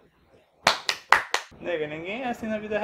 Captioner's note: applauses